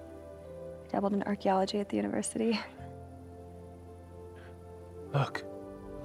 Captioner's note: laughs